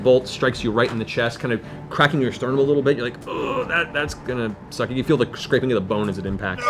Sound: groans

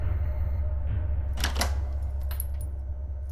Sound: door unlocks

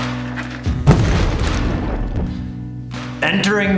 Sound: explosion

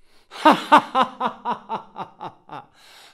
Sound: evil laughter

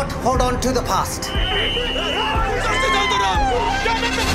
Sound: blowing a whistle; screams

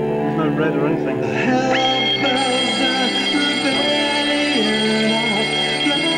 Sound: alarm bells ring

